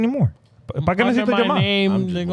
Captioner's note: speaking In Foreign Language